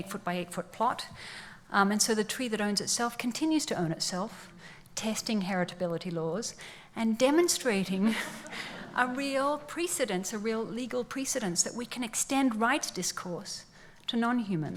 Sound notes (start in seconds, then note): 8.1 laughs